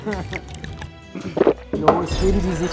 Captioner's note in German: Lachen; Trinkgeräusche, Schlucken